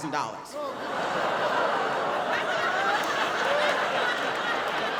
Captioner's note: audience laughing